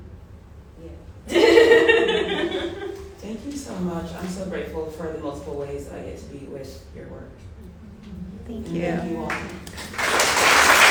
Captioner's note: laughter; applause